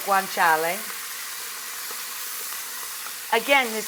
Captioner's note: pot sizzling